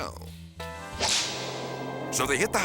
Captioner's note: whip cracks